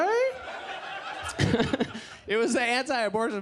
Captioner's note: audience laughs